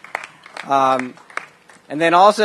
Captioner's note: applause